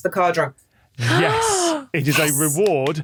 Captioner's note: gasps